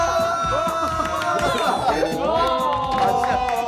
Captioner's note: Menangis